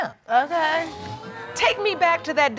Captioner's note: audience exclaiming